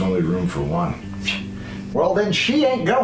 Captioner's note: scoff